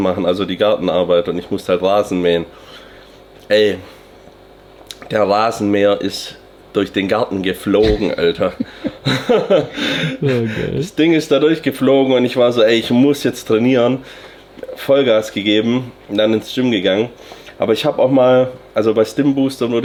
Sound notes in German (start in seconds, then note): 7.8 gelächter